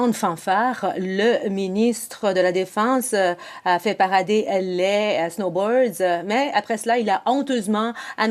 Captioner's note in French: voix de l'interprète